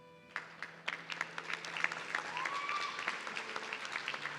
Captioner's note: audience cheering